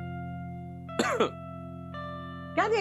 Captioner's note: coughing